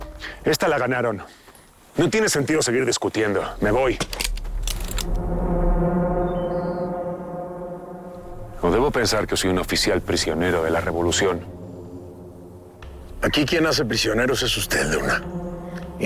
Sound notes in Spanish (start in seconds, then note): 4.6 Sonido de los revólveres